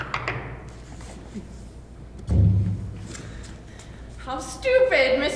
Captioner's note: knocking